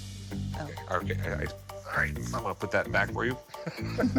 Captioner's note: stammers; chuckling